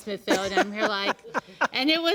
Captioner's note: laughs